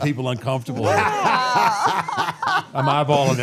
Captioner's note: all laughing